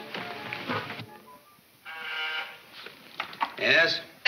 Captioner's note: intercom buzzes